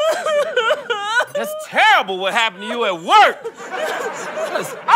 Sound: yelling

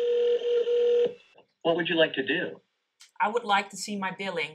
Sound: phone ringing; on phone

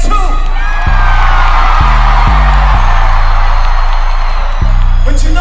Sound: audience Cheers

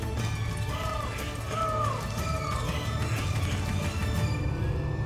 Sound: bird calls echoing

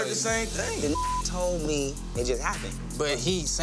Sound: beep

